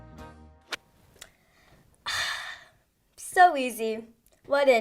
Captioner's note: loud exhaling